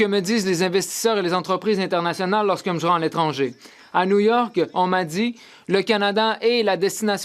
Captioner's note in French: voix de l'interprète